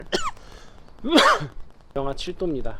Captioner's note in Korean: 콜록 콜록